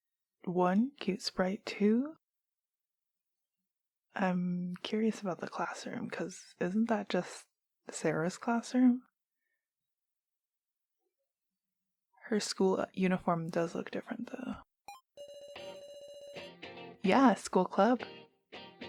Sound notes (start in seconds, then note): none